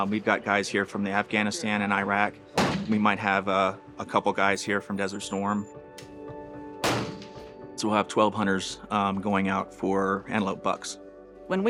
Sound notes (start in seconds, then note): 6.8 gun banging